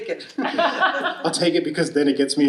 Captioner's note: audience laughing